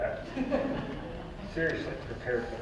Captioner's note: audience laughs